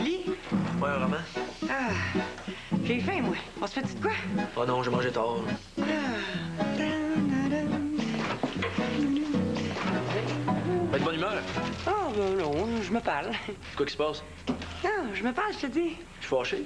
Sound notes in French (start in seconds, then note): 6.6 Elle chantonne